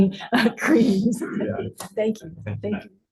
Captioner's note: laughter